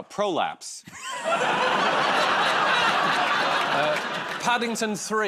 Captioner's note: laughter